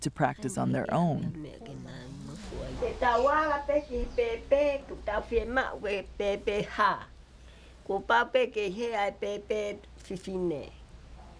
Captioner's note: foreign Language